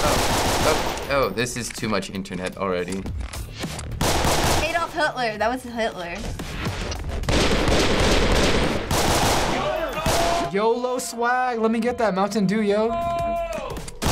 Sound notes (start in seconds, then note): 0.0 gunfire; 7.2 slow-mo gunfire